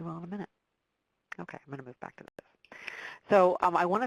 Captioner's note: voice muffled